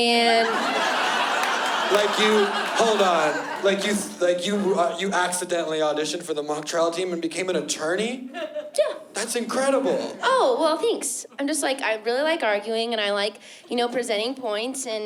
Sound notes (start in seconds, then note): 0.2 laughter